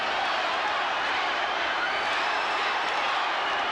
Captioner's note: crowd cheers